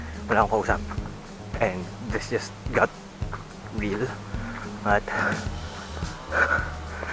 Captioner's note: conversation